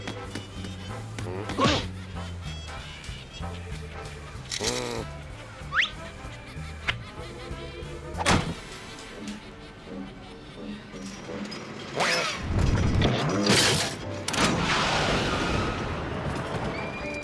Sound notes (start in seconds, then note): 1.2 grunts